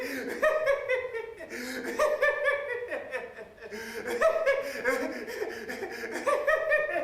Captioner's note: laughing